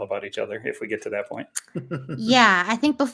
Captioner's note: chuckles